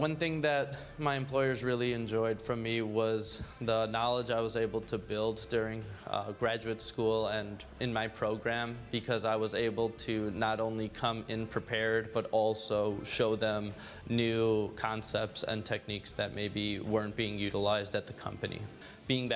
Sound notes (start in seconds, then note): none